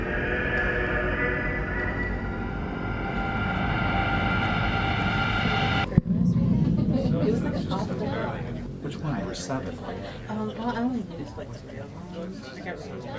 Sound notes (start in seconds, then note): 4.0 ominous music; 6.8 people talking